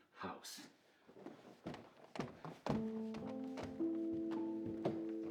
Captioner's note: footsteps tapping